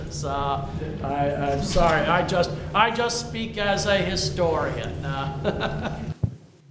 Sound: laughs

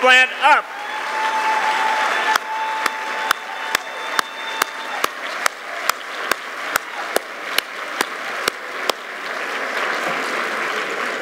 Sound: applause

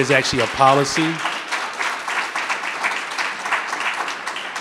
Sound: audience clapping

